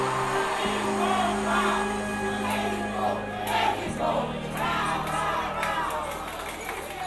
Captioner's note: all chant